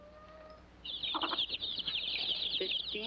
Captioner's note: chicks chirping